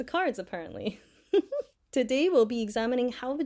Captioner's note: giggles